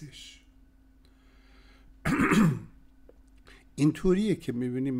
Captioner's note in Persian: صدای صاف کردن سینه